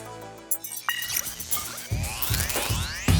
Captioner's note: electronic buzzing